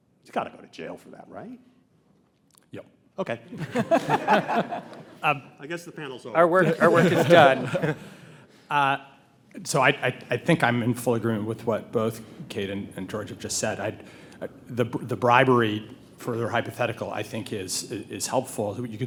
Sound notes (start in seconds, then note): 3.5 panelists laugh